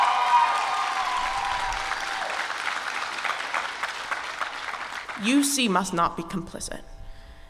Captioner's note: applause